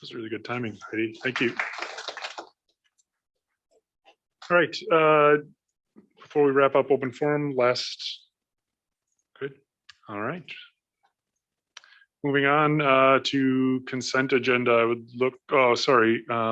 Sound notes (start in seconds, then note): 1.2 applause